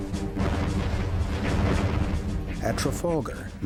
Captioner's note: guns rumble